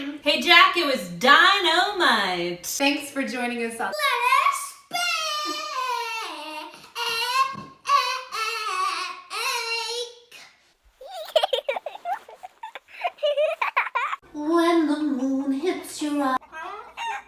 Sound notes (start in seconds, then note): 11.0 baby giggles